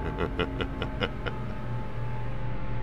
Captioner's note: laughs evilly